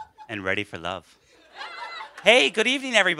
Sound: laughter

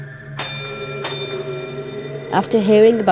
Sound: bell ringing

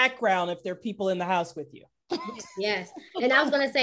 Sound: laughing

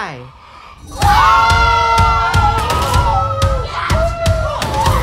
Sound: group screaming

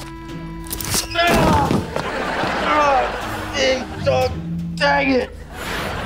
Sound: groaning

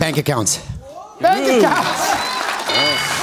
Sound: laughs; bell rings

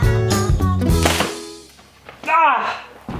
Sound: door closing loudly

